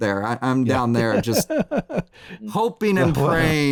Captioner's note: laughs